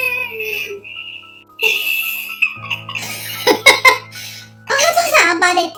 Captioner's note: laughs